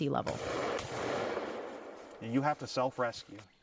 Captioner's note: gun shots